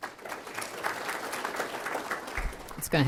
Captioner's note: applause